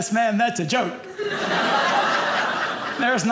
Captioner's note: audience laughing